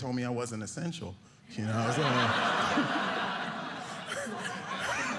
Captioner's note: audience laughing